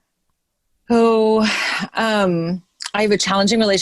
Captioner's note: sighs